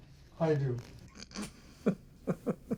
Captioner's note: laughs